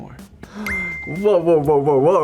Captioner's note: gasps; beeps